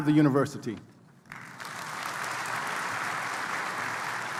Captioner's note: applause